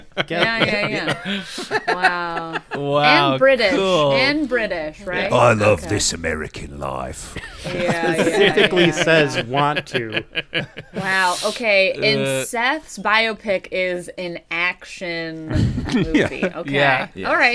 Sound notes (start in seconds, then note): 0.0 laughter; 4.9 Jason Statham voice